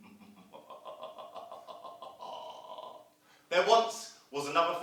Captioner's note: sound of evil laugh